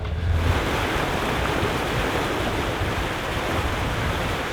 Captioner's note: water rushing